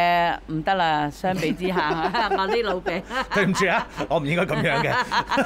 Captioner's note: ha ha ha